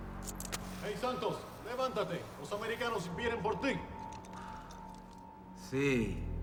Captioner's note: officers and Santos speaking Spanish